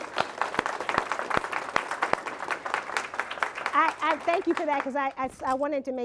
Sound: applause

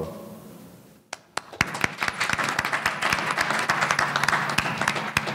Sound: audience applauding

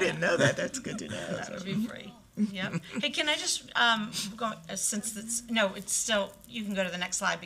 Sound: laughter

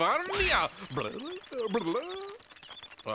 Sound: blubbering

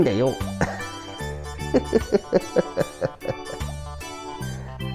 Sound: laughter

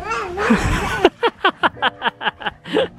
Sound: laughs

